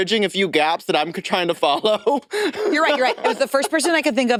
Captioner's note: laughs